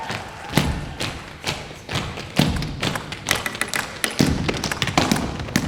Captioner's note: tapping